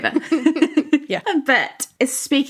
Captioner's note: laughing